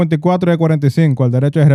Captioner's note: speaking Spanish